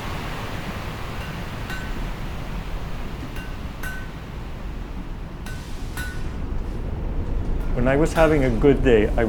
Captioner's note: metallic clanging